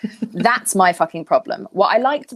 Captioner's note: laughing